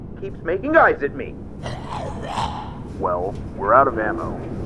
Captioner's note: growling Noises of Agreement